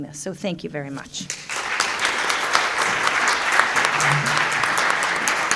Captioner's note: applause